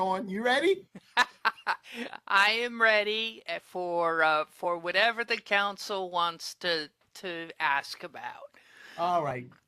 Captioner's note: laughter